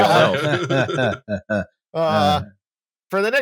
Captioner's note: laughter